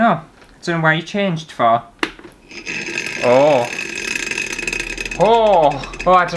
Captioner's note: loud Motor Sounds